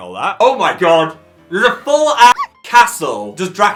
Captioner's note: dog bark